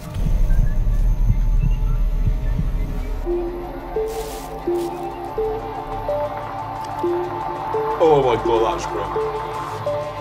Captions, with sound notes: (bag rustles) - Oh my god, that's grim.